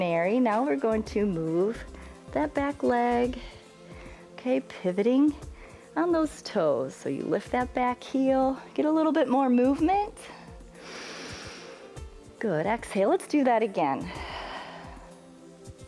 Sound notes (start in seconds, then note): 10.2 inhales; 15.0 exhales